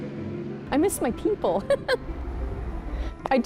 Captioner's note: laughing